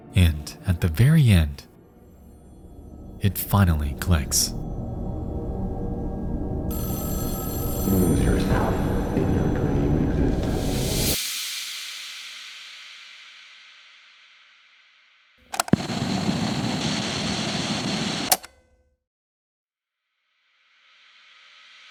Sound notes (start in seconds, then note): 6.9 phone rings; 15.5 static hissing